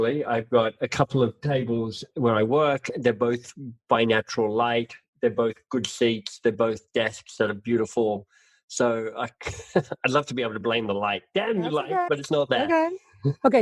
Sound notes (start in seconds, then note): 9.3 laughs